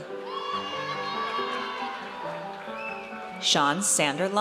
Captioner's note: audience cheers